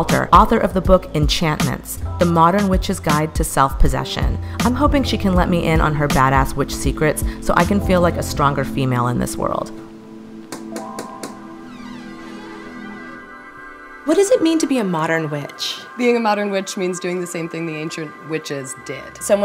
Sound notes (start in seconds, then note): 10.6 knocking; 11.2 creaking